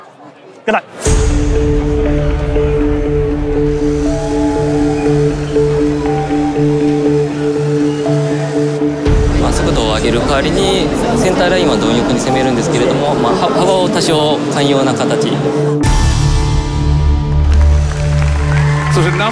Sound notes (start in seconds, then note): 0.0 speaking Japanese; 1.5 dramatic electronic music; 9.4 speaking Japanese